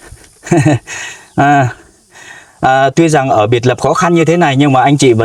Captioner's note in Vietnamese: tiếng cười